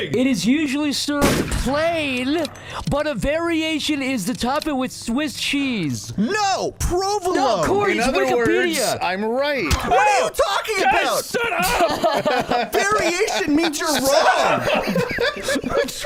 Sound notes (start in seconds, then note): 10.9 laugh